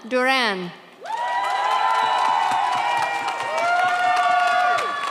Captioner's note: audience cheers